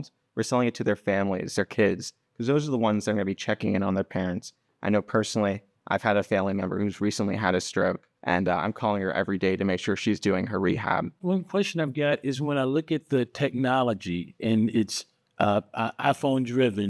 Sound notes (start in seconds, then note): none